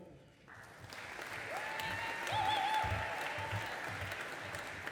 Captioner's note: audience applauding